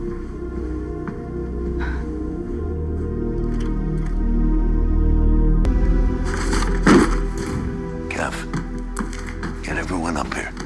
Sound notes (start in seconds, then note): 1.6 exhales heavily; 2.9 door opens